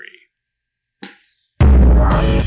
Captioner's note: outro Theme Music; pooooooof